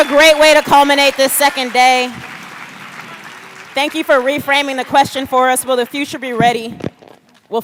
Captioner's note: cheers and applause